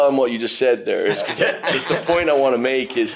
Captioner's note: laughs